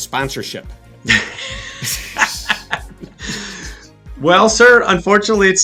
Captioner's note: men laughing